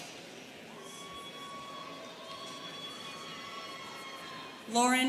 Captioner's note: students cheering